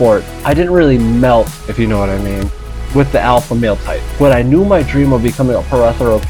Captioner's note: insert crickets